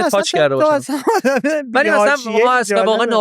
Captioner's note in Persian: خنده